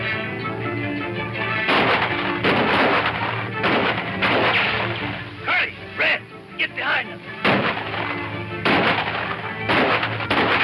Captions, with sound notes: - Hey, man get behind them. (guns firing)